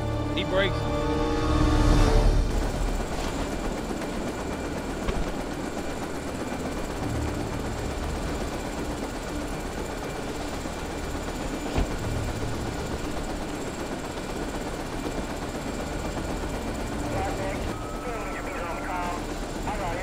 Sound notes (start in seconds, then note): 17.1 radio chattering